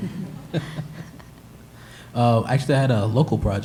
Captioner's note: laughter